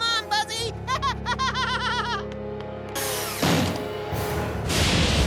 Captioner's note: laughs